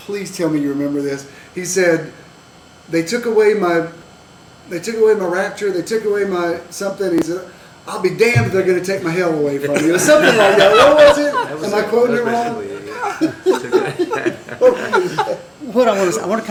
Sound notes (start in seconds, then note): 9.6 laughter